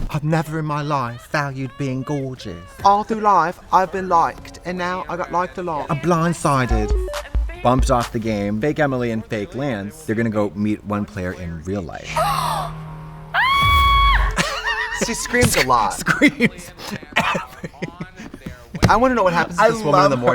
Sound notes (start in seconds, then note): 6.4 upbeat music; 12.0 gasps; 13.3 screams; 14.2 Katya laughs